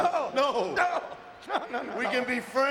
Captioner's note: none